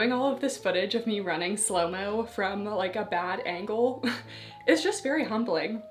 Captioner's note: chuckles